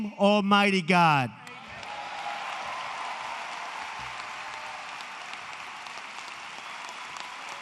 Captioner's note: applause